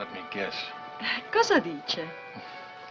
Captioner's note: speaking in italian